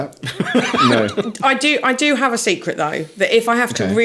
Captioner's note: laughing